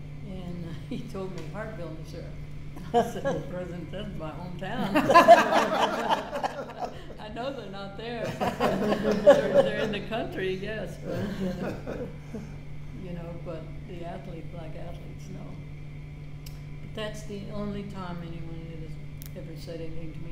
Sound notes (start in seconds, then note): 4.8 all laughing